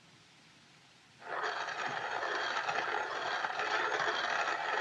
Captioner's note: grinding